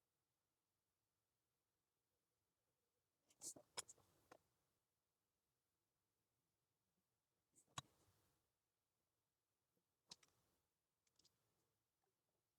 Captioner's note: silence